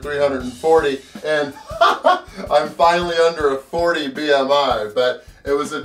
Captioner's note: laughs